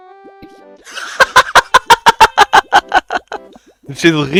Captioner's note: laughs